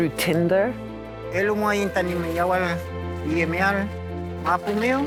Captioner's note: non-english speech